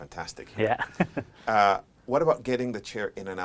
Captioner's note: laughs